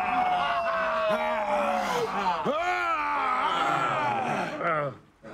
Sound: all cheering; grunting; all murmuring

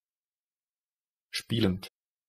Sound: fast Pronunciation

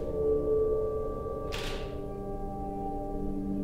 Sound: shutter clicks

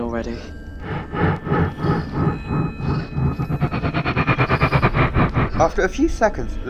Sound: The Tardis makes a scared noise

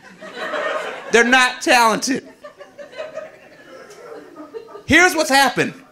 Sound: audience laughing

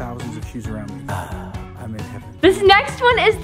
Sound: sighs

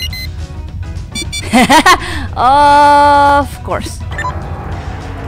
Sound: door block alert

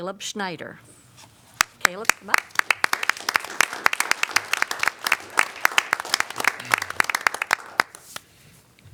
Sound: applause

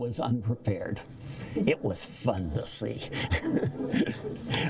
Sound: laughter

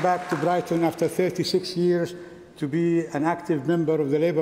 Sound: applause

